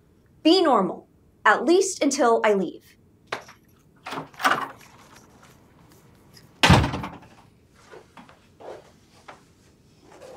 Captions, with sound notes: Be normal, at least until I leave. (door slams)